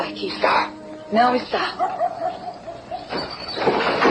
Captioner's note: dog barks